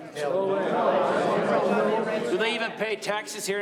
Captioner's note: men grumbling